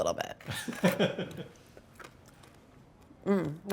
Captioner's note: laughs